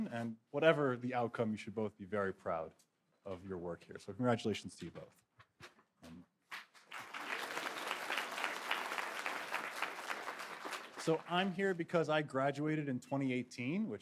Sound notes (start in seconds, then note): 6.8 audience applauding